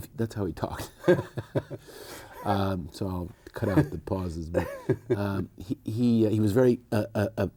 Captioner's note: both laughing